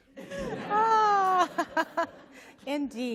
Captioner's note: laughter